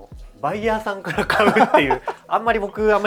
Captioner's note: laughs